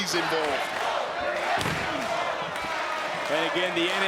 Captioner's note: crowd chanting